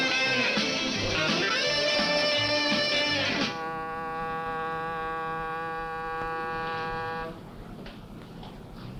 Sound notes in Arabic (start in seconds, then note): 2.7 صوت البوق